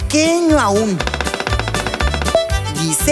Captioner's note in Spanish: Sonido de pájaro carpintero